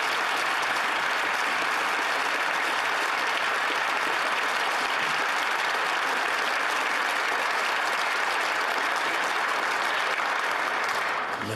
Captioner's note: applause